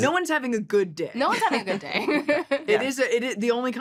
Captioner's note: both laughing